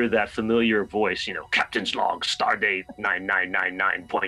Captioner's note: imitating the voice